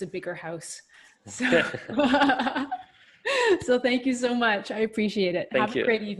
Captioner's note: laughs